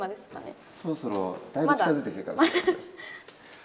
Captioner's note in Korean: 웃음